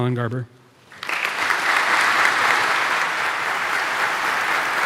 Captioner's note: audience applauding